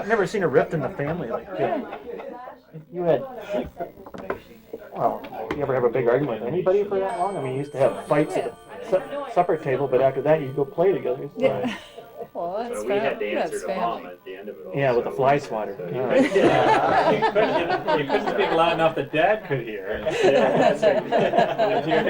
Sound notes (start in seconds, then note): 11.4 laughs; 16.0 crowd laughter